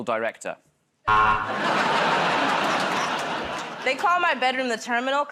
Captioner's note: buzzer